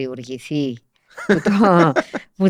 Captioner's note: he laughs